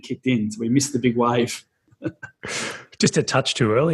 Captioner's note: laughs